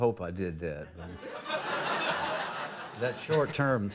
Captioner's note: audience laughing